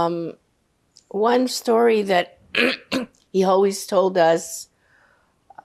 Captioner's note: clears throat